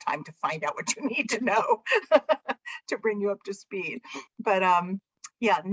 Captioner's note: laughter